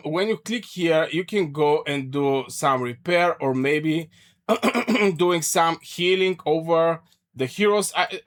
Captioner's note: clears throat and cough